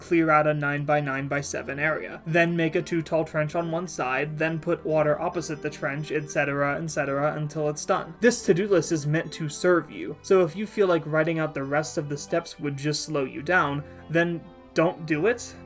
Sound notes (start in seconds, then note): none